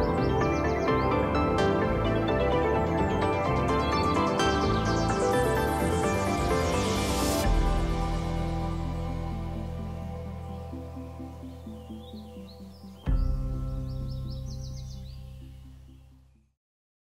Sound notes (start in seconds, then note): 0.0 techno music; 2.8 birds chirping